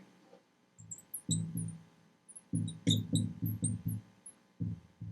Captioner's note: marker scratching